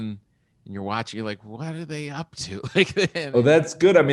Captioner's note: chuckling